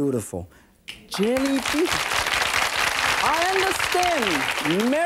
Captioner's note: audience clapping